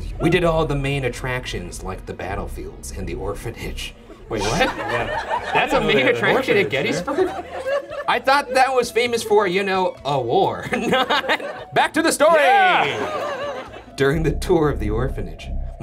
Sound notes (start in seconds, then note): 7.3 audience laughing; 11.2 laughs; 12.6 ominous music